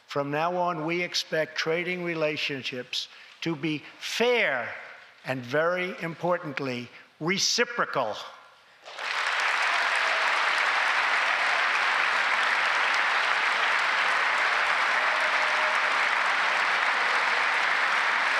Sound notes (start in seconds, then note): 6.8 applause